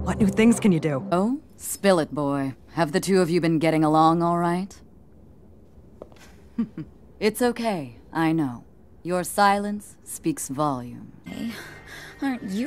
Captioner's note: chuckle